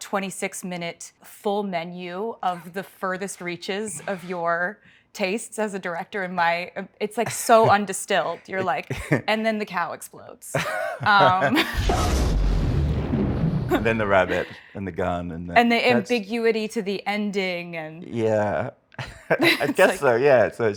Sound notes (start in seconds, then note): 10.5 Martin laughs; 11.5 explosion booms; 19.0 laughs